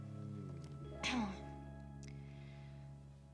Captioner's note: clears throat